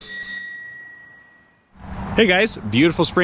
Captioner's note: bike bell ringing